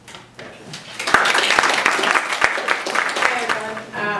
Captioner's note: applause